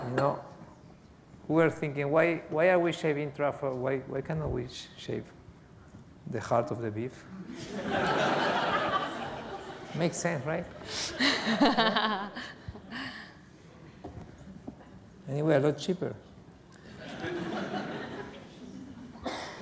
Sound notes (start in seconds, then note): 7.5 laughter; 10.8 laughs; 16.8 laughter